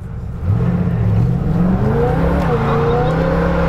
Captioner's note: car revs